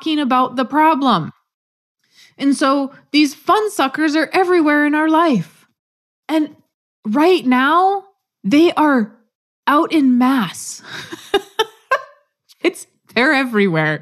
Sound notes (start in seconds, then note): 10.9 laugh